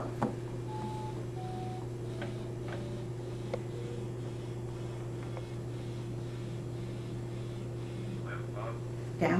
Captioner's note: calculator Noises